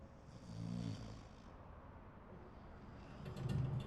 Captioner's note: snoring